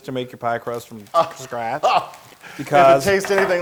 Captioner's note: laugh